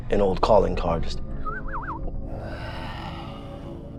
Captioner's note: whistles